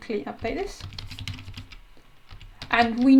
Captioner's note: types loudly